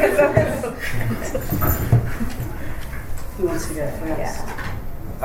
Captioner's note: laughter